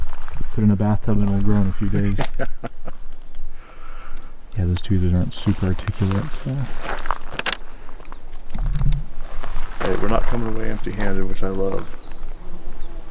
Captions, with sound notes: Put it in a bathtub and it'll grow in a few days. (chuckling) Yeah, those tweezers aren't super articulate. - All right, we're not coming away empty handed, which I love.